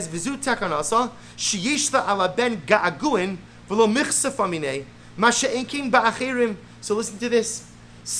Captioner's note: Hebrew